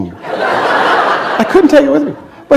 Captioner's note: laughter